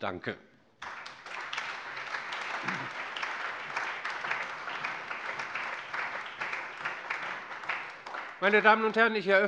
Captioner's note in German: Allgemeiner Beifall